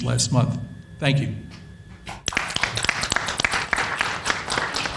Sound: panel applauds

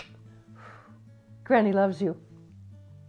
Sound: kiss

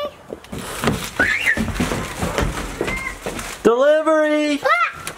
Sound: screams; yells and laughs

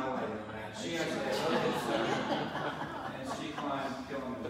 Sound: audience laughs

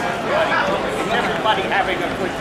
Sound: audience chattering

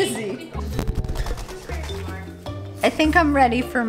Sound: wings flapping

